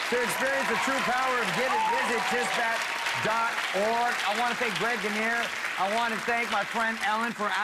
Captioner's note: cheers and applause